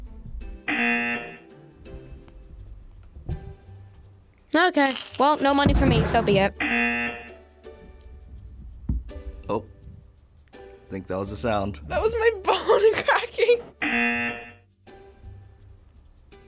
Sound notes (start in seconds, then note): 0.7 buzzer rings; 6.6 buzzer rings; 9.3 jar thumps; 12.5 laughs; 13.8 buzzer rings